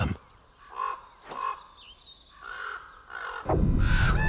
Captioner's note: bird squawking; dramatic music